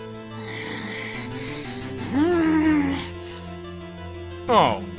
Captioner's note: growling